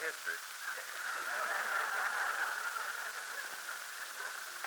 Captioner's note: laughter